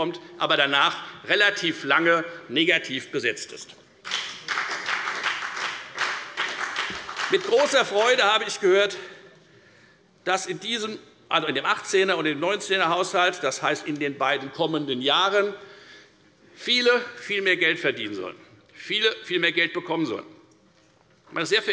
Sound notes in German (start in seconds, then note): 4.0 Beifall bei der FDP und bei Abgeordneten der SPD